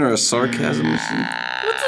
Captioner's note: buzzer